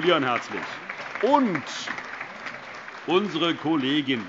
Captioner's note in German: Allgemeiner Beifall